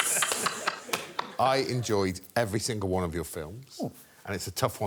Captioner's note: laughter